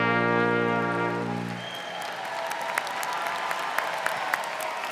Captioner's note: crowd clapping